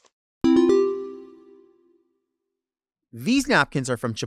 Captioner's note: bell chiming